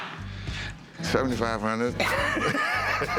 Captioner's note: laughter